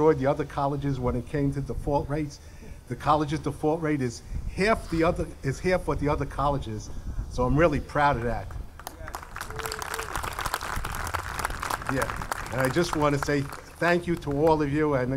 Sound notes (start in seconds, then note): 8.7 audience clapping